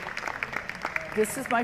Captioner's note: applause